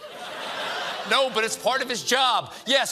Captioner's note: laughter